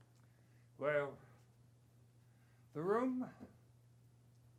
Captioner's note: none